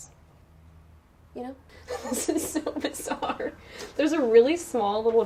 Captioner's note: laughing